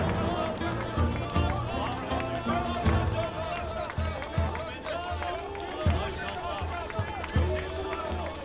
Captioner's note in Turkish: Alkış sesleri